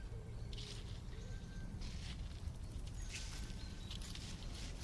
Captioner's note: footsteps crunch